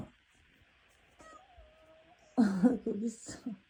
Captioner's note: meow